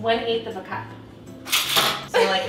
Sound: utensils clattering

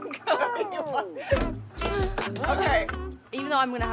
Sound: laughs

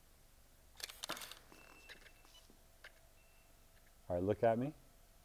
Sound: camera shutter clicks

